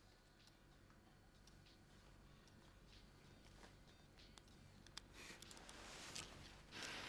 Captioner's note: fingers tapping; upbeat music